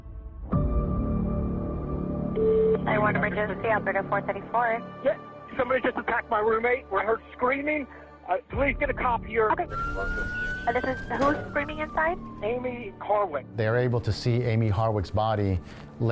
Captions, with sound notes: [dramatic music] [line beeps] - 911 emergency, operator 434. - Yeah, somebody just attacked my roommate. I heard screaming. Please get a cop here. - Okay. [siren wailing] Who's screaming inside? - Amie Harwick. - They're able to see Amie Harwick's body